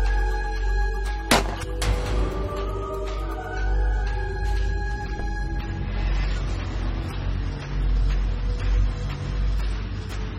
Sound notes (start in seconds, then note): 1.3 weapons firing